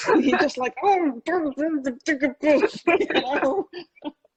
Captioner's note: laughing; grumbling